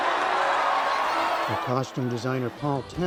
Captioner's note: cheering